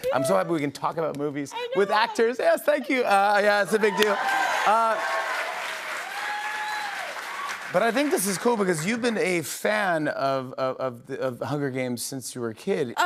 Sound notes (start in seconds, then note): 3.6 cheers and applause